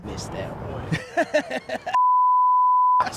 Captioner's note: laughs